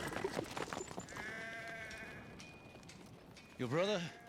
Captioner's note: horse neighing; sheep bleating